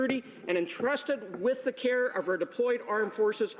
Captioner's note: none